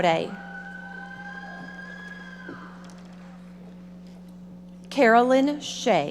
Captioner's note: audience members shouting